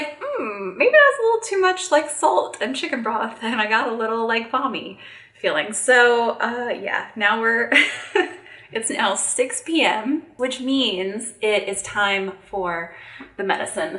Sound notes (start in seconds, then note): 7.8 chuckling